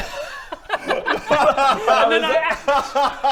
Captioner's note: laughter of a table of lunatics